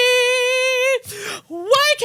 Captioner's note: gasp for air